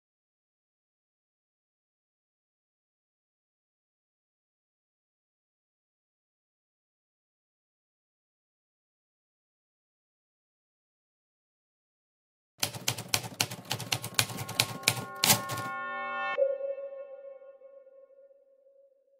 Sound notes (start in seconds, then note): 12.6 typewriter keys clacking; 16.4 gentle music